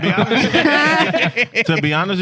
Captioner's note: laughing; speaking In Foreign Language